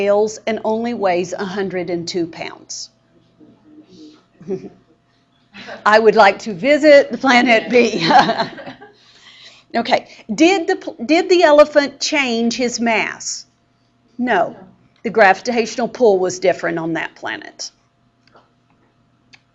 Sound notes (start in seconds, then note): 7.4 laughing